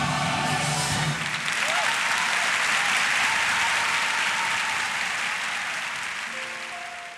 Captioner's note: cheering and applause